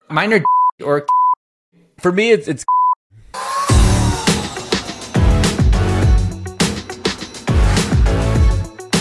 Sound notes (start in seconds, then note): 1.1 beep; 3.4 upbeat music